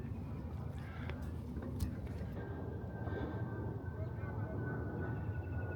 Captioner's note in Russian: воющий ветер